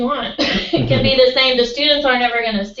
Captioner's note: laugh